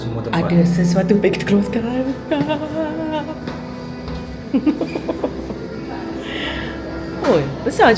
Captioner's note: laugh